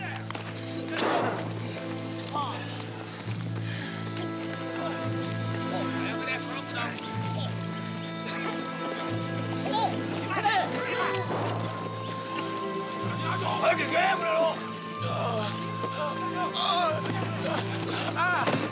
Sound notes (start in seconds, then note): 0.2 shouting Japanese; 0.2 somber music; 15.0 groaning